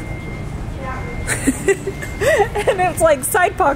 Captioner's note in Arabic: تضحك